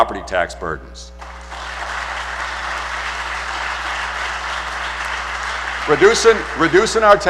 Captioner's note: applause